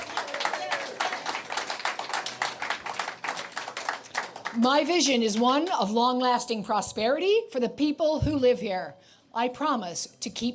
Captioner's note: cheers and Applause